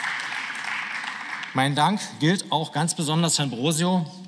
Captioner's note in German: Beifall